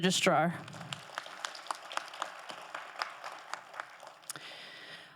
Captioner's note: crowd applauding